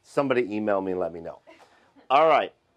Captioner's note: woman chuckles